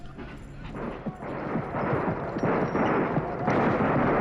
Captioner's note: guns firing